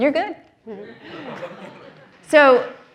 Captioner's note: audience laughs